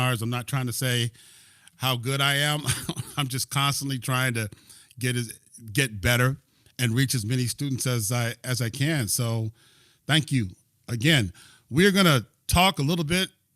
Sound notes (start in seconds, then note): 2.6 laughter